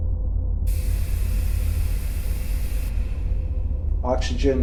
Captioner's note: eerie atmospheric music; spaceship whirring